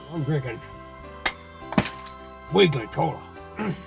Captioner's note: bottle crashes